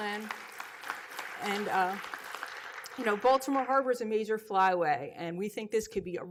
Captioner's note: applause